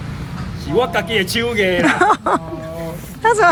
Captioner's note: haha